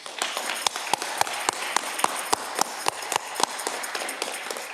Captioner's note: audience clapping